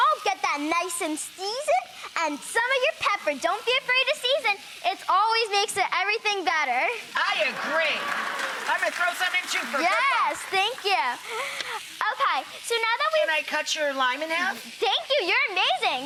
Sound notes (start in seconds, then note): 7.1 audience cheering